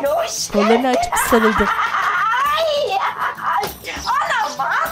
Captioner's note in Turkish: Gülme sesi